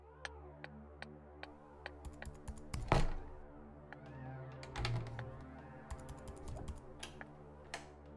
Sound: Parker types on keyboard, door creaking, window slamming

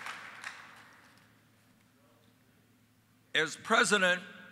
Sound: applause

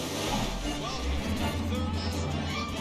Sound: engine revving

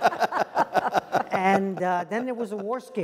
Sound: laugh

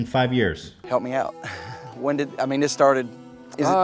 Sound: forced laugh

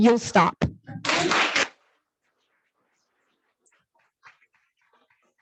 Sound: audience applauds

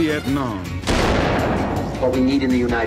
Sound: gun bangs

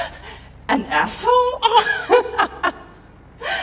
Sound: chuckles

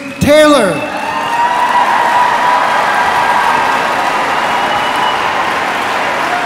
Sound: audience screaming and applauding

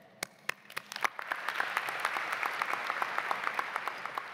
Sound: audience applauds

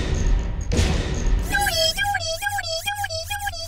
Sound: squealing

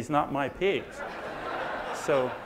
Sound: audience laughs

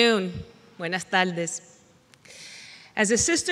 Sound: foreign language

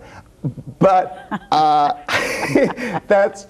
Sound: both laughing

